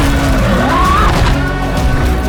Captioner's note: drone buzzing